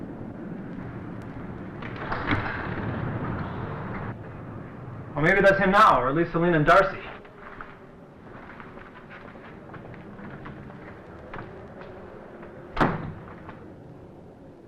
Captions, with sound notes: (door creaks) Well, maybe that's him now, or at least Selena and Darcy.